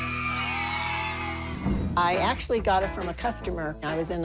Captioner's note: cheering